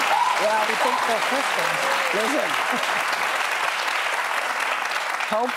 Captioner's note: applause